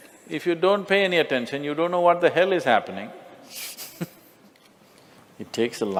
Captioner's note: laughter